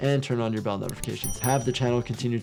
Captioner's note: bell dings